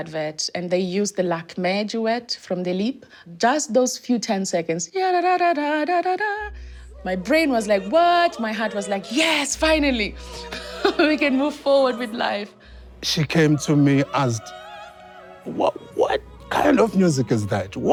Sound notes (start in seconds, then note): 4.5 hums opera song